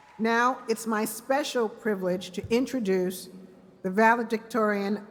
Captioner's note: cheers and applause